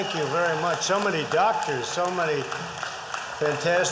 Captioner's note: applause